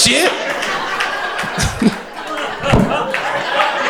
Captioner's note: crowd laughter